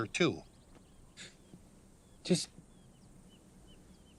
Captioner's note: chuckles